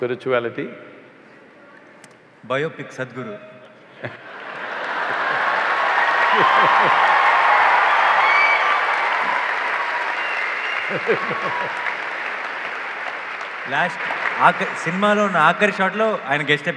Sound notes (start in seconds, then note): 5.3 cheers/Applause; 8.4 Sadhguru laughs